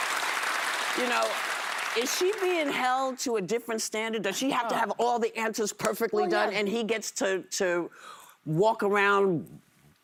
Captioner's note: applause